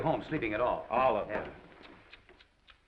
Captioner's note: tsking